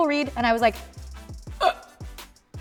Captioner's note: gasping